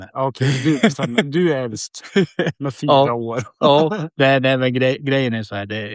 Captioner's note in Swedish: skratt